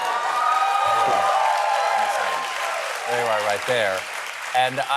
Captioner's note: cheering